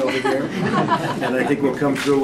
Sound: laughter

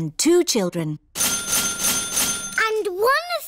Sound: dinging

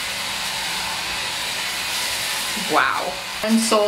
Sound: cleaning brush continues whirring

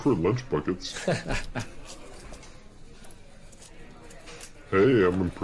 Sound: laughs

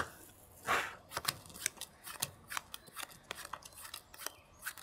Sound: cards scratching

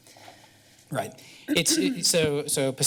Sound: clears throat

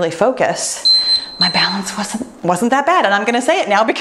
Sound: timer beeps

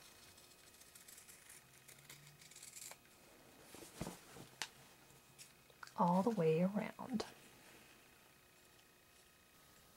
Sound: fabric being cut

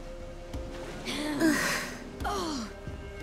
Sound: grunt

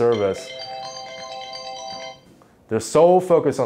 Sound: phone rings

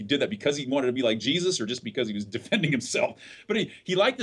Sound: laughs

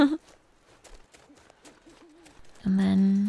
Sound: giggles

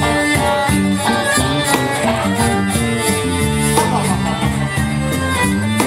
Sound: laughs

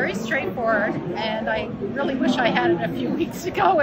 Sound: laughing

